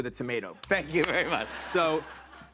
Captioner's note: laughter